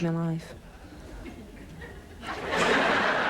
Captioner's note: snickers